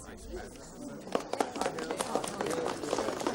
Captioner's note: applause